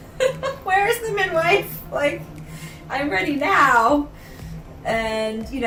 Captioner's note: laughing